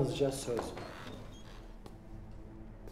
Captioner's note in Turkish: Kapı sesi